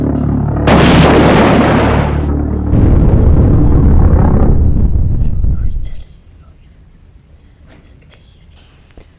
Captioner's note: bombing